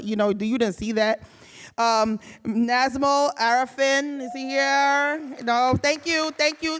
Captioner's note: audience cheering